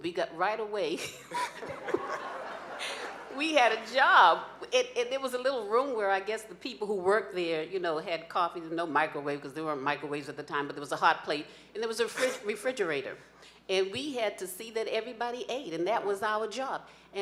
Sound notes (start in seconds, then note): 1.1 laughing